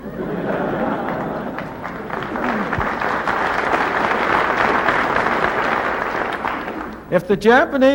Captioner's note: laughter and applause